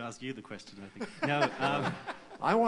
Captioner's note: laughter